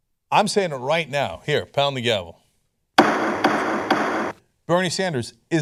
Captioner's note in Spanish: Sonido de martillo judicial